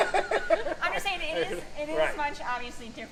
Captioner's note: laughing